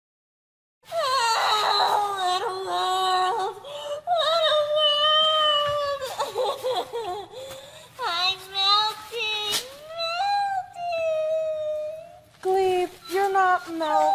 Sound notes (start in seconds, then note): 0.9 shrieking; 6.6 sobbing